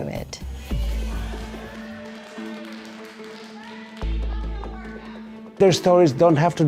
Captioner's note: performers clap and speak on stage